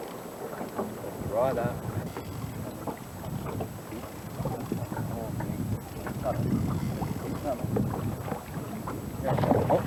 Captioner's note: water sounds